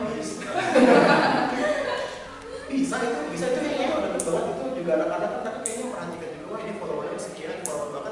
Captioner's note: laugh